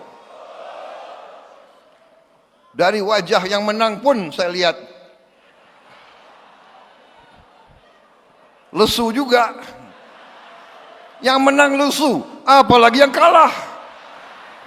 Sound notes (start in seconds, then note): 2.3 crowd